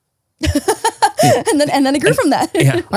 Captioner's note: laughing